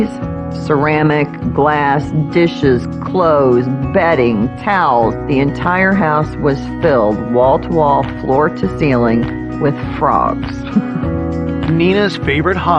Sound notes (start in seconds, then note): 10.6 lauaughing